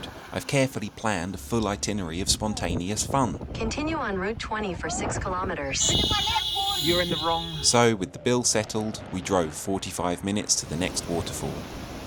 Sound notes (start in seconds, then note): 5.7 car horn beeps